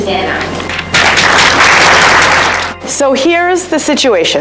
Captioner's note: applause